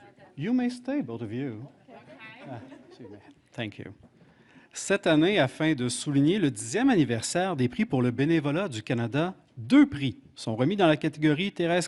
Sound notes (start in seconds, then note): 1.9 laughter; 6.6 speaking French